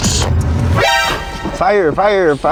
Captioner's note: alarm chimes